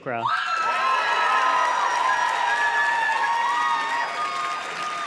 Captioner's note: audience cheers and claps